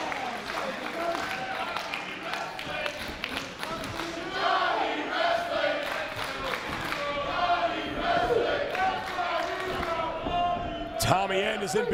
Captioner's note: applause